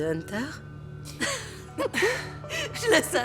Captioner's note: laughing